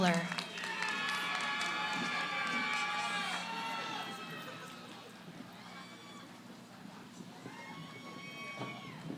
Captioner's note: cheering